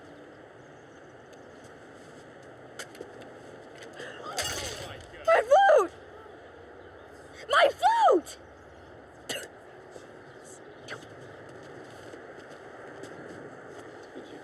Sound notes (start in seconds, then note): 9.1 spits